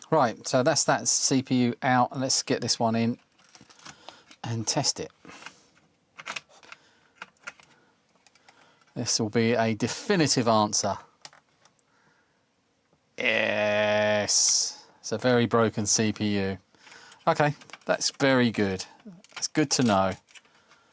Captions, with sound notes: Right, so that's that CPU out. Let's get this one in and test it. (Keyboard Clacking) This will be a definitive answer. Yes, it's a very broken CPU. Okay, that's very good. It's good to know.